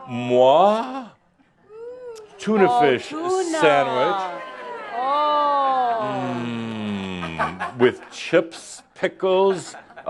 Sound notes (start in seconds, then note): 4.4 someone says “Ooh!”; 9.9 some chuckles